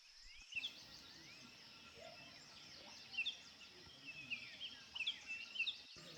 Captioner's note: birds chirping